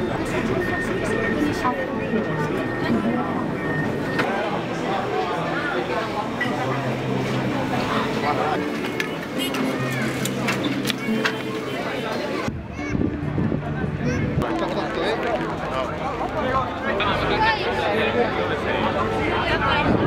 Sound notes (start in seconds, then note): 0.2 people chattering; 7.6 ticket machine beeping; 12.6 people chattering